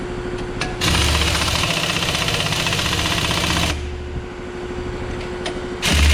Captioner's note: impact wrench and air compressor whirring